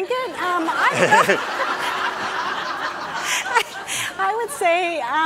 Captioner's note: audience laughing